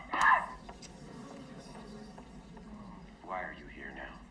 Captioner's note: audience murmurs